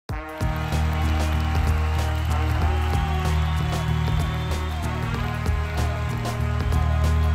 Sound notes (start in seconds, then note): 0.1 crowd applauding; 0.2 dramatic music